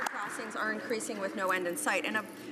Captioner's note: some Applause